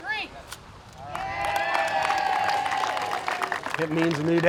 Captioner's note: crowd cheers